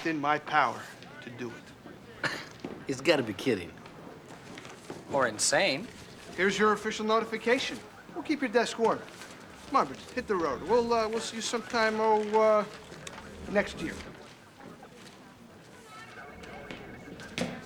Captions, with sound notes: to take his vacation time. (laughs) Rick, are you giving me the day off? I'm not giving you the day off. No, Nash, I'm giving you the next ten months and 13 days off. (sighs) Rick, you are not my commanding officer, so... No, not in the direct chain of command,